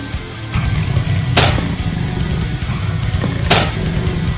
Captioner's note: legs clanking